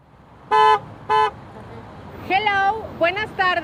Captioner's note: horn honks; speaks Spanish